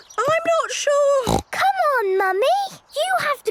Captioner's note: snorts